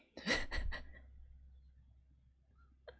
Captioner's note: laughs